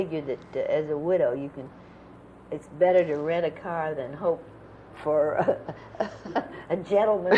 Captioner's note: laughter